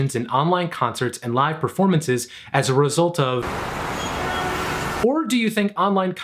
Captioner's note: city noise